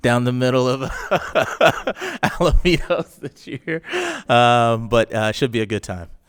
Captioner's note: laughs